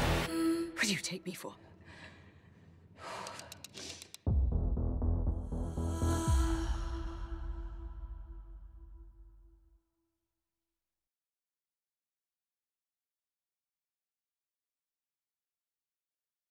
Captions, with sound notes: Who do you take me for? [exhales deeply]